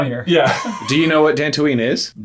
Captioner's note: laughing